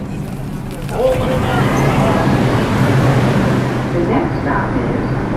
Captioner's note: traffic whooshing loudly